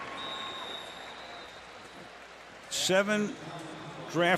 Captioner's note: whistle